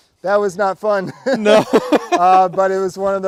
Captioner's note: both laughing